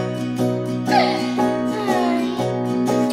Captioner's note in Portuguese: Rindo de Bruna